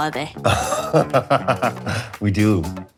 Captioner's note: pedro chuckles